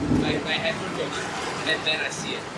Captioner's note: imitates thunder